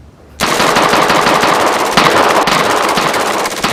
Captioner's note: gunfire erupts